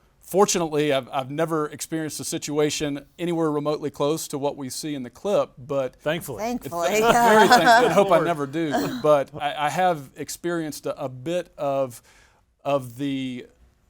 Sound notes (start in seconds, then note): 8.1 group laughing